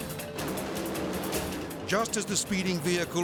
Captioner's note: edgy dramatic music; dragsters revving